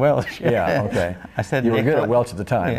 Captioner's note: laughs